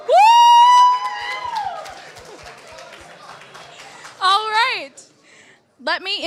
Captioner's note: applause